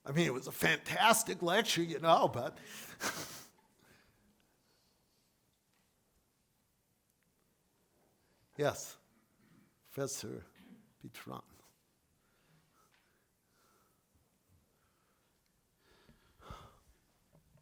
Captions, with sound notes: I mean, it was a fantastic lecture, you know, but... (laughs) Yes, Professor (speaks faintly).